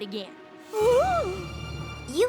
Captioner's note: gasps